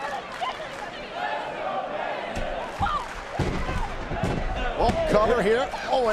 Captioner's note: fans chanting